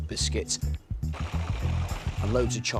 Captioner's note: kitchen robot whirring